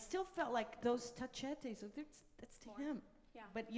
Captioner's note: speaks in foreign language